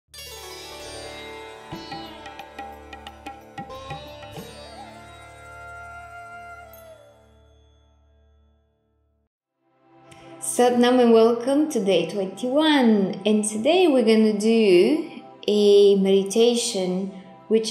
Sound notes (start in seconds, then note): 0.3 gentle music; 10.5 speaking in foreign language